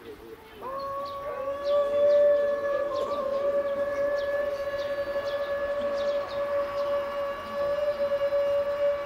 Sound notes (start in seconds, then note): 0.6 contestants chanting